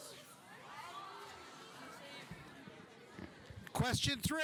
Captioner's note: audience chattering